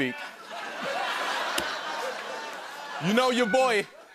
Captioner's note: laughter